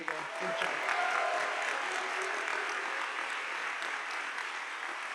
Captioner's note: audience applauding